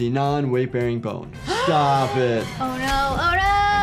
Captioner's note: gasping